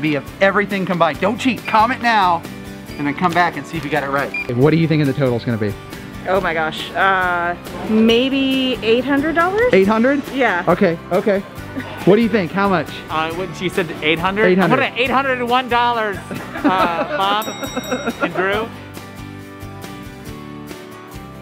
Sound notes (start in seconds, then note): 16.2 laughter; 18.4 uplifting music